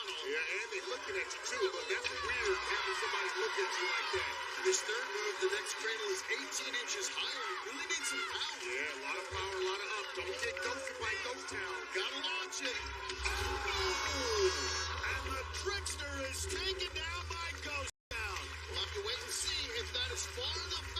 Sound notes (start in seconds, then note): 13.4 air horn blares